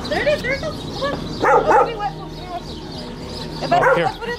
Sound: barks

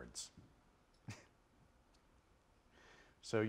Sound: chuckles

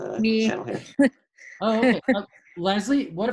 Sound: laughs

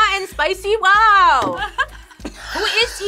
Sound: laughs

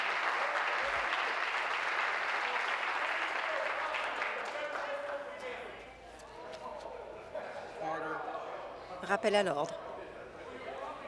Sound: applause

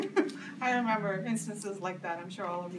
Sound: laughs

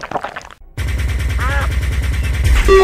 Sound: glug glug; quack sound

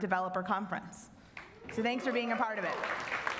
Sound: applause

